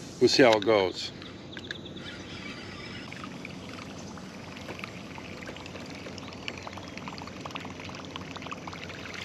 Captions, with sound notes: We'll see how it goes. (water babbling)